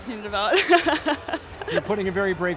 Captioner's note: uncomfortable laughing